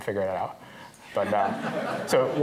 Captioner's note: laughter